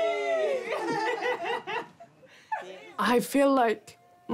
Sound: all laugh

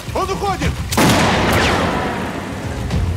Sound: gunshot

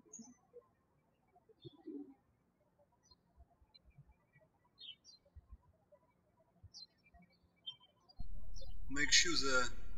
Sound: birds chirping

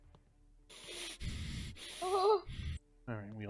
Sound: heavy breathing

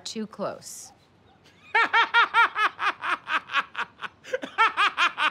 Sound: laughing

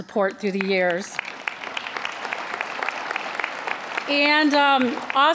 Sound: applause

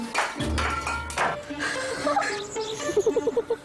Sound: magical shimmering; mischievous orchestral music; cups clattering; both laughing

